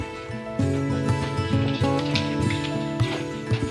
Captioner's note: humming